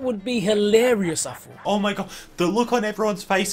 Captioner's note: inhale